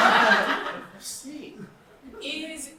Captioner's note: audience laughter